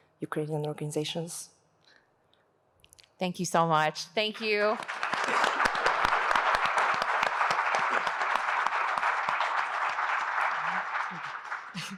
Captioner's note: applause